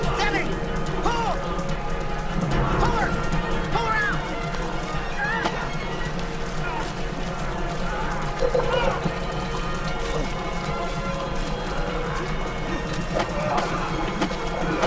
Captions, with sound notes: - Zzeben! Pull! Pull her! Pull her out! - Ha! (stabbing)